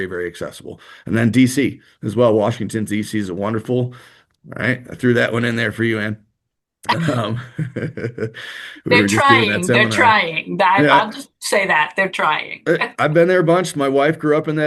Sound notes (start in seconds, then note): 6.9 laughter